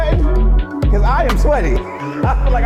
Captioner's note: laughs